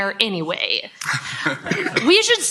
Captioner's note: laughter